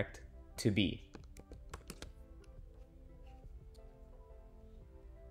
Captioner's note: keyboard clicks